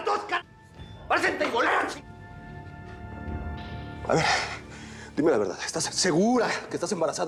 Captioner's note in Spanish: grita